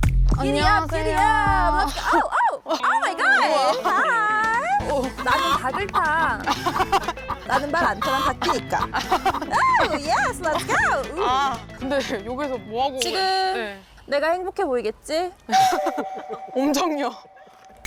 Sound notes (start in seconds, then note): 2.8 western music; 5.2 rooster crowing